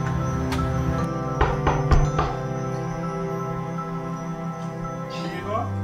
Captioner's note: knocking on door